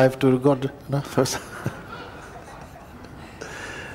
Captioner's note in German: Lachen